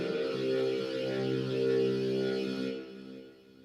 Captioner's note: just the drone